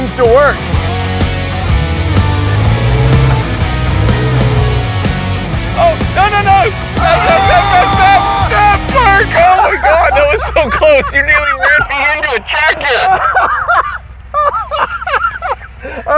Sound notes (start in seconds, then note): 1.4 engine roaring; 5.7 both yelling; 13.5 laughing